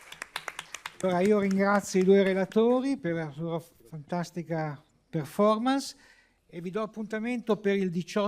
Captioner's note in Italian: Applauso